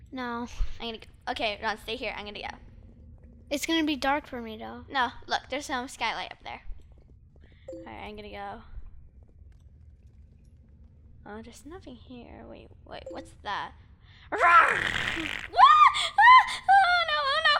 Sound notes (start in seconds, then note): 14.5 growling; 15.9 screams